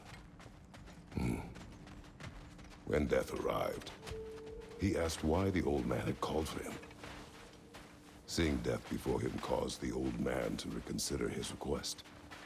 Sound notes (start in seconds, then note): 1.1 grunt